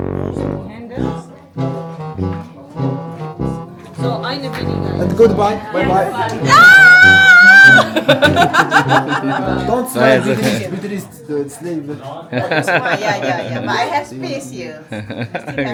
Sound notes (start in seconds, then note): 4.0 speaking German; 5.3 laugh; 6.4 scream; 15.1 laugh